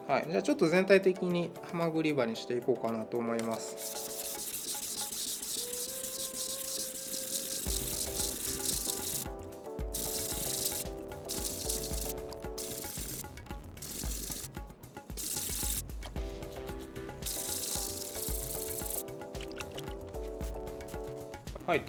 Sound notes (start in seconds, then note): 3.4 sound of grinding a clamshell edge